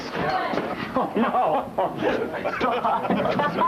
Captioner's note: laughs